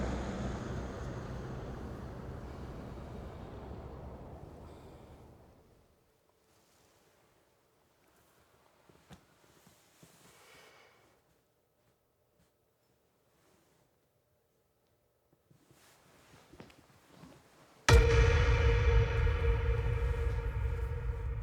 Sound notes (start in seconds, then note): 8.0 cloth rustles; 17.9 dramatic musical score